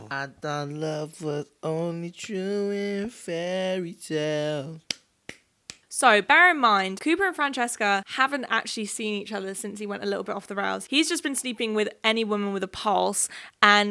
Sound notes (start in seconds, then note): 5.2 hand clapping